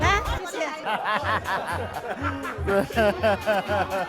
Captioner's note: laughs